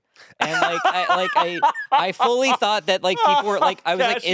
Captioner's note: laughing